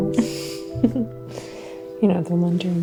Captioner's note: Mary laughing